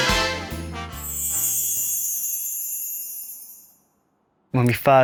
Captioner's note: chimes jingling